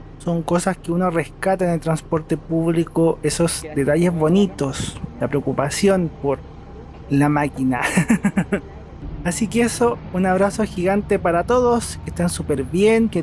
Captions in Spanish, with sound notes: son cosas que uno rescata en el transporte público, esos detalles bonitos la preocupación por la máquina (risas) un abrazo gigante para todos, que estén super bien